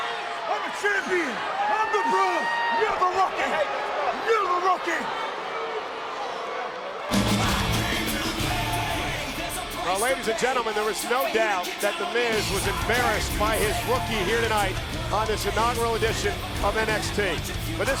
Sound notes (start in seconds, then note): 5.4 audience cheering